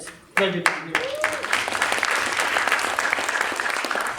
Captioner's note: applause